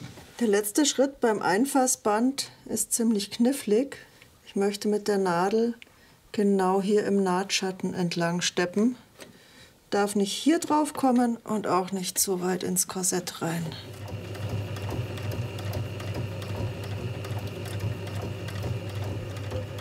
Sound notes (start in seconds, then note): 13.6 sewing machine rattling